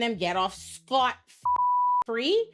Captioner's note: beep